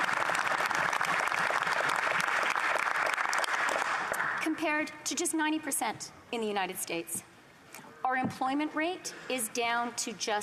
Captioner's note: applause